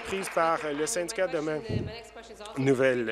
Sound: applause

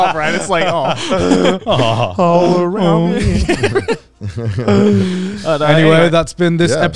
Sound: all laughing and humming

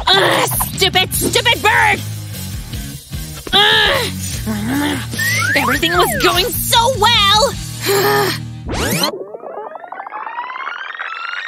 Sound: angry muttering

